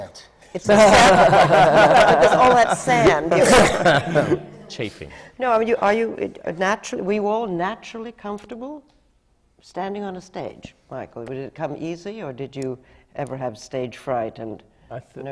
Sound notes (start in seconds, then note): 3.2 laughter